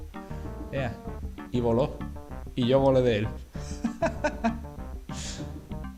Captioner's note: laughs